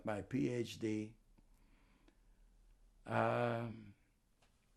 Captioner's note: pauses 6 seconds